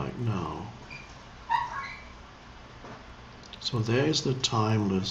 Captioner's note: metal creaking